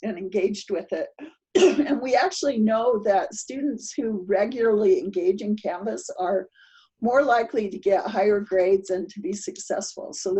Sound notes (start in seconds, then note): 1.5 coughs